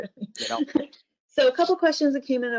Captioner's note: laughs